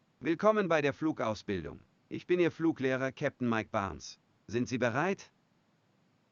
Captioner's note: speaking in a foreign language